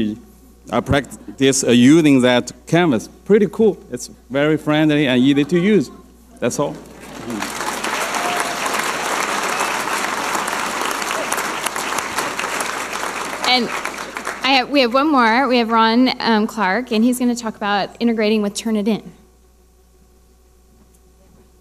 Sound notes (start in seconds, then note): 6.8 audience applauding